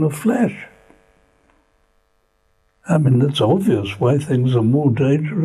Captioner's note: pauses for 3 seconds